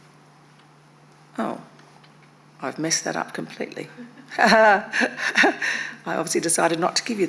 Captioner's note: chuckles